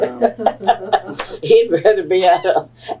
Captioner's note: laughter